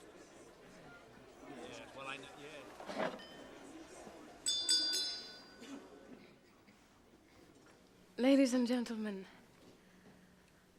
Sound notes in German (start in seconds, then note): 4.4 Klirrt Glas; 6.1 Gesprächsruhe